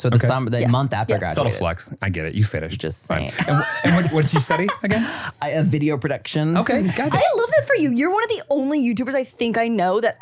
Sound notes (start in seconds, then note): 3.3 laughs